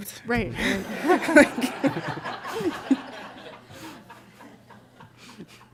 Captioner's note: laughter